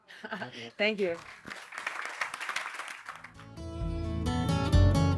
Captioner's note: applause